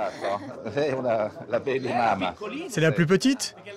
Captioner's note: speaks Italian